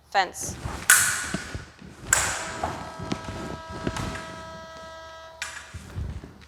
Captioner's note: clicking